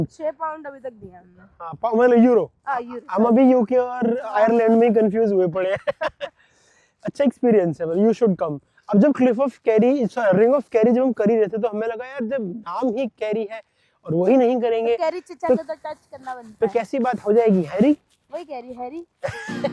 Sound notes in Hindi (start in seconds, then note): 5.6 हंसी